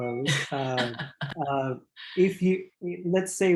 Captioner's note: laughing